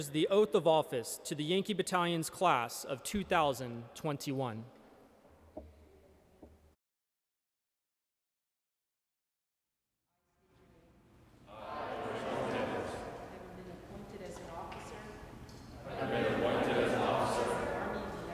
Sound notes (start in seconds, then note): 9.6 faintly speaking